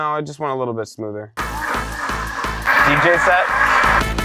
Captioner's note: blender grinding